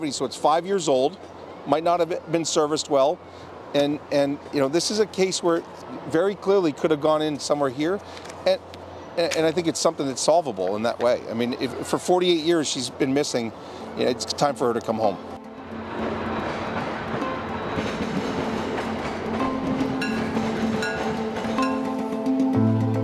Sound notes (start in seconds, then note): 15.5 train rattles; 20.3 intense music